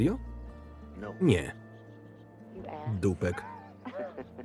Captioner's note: both laughing